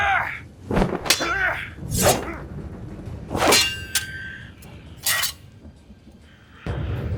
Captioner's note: sounds of shouts and fighting